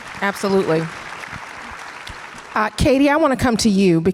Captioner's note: audience applause